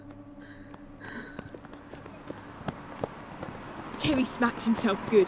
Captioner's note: the sounds of the school fade back in